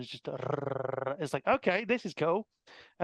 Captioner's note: laughing